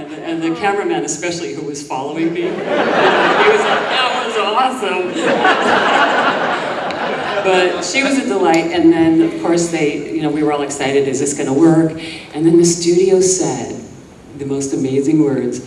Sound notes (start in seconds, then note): 2.3 audience laughing